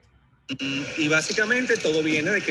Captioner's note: speaking Spanish